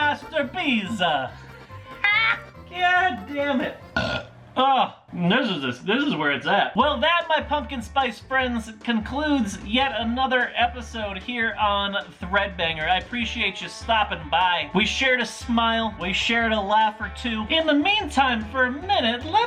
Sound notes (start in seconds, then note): 0.0 Italian accent; 0.5 laughs; 3.9 burps